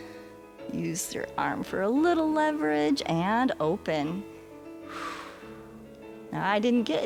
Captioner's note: exhales